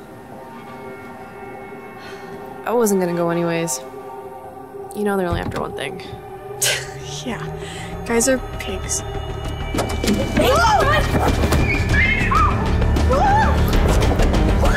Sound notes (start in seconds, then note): 0.8 ominous music; 10.2 girls screaming; 11.9 dramatic music